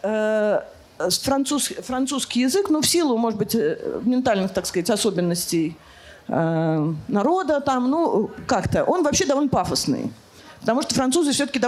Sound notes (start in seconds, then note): 4.0 French